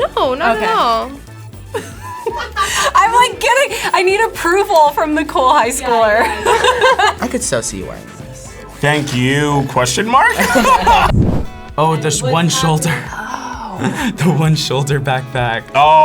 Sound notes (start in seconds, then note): 1.6 both laugh; 5.5 laughs; 10.2 both laugh; 13.7 laughs